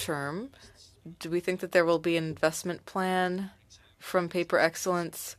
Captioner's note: speaking French